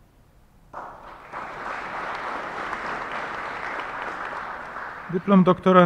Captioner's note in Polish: oklaski